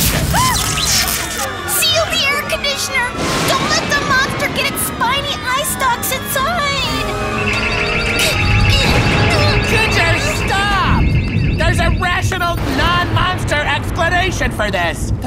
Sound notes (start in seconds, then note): 0.0 electricity fizzes; 7.1 beeping